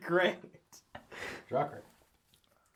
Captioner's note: all laugh